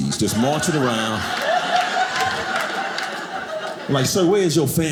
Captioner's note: audience laughing